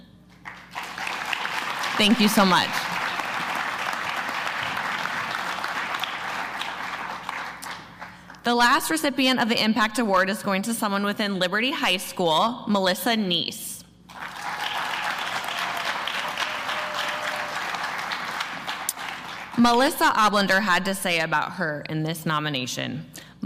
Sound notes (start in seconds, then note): 0.3 applause